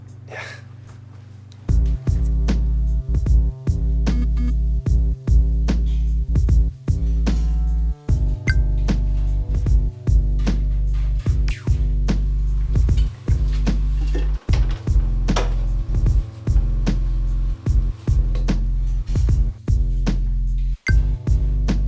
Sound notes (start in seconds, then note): 4.1 cell phone buzzes